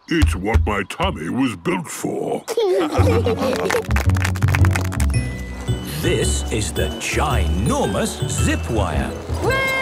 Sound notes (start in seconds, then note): 2.4 laughing; 3.4 clapping